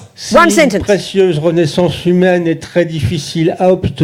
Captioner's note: speaking in French